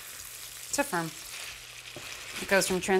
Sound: sizzling

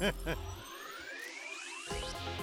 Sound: chuckling; whirring; techno music

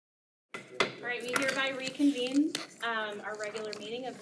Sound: gavel pounds

